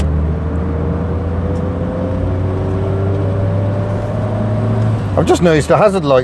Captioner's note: driving sounds